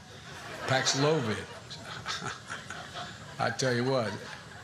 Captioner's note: chuckles